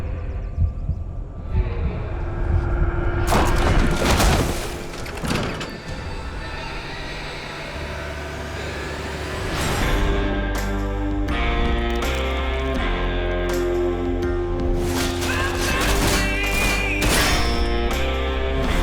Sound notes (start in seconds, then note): 0.0 heartbeat; 3.2 splash; 9.1 theme music; 14.8 clanging; 14.9 singing